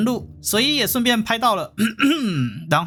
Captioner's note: cough cough